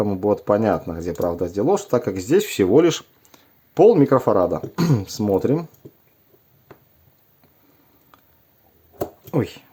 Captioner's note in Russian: откашливается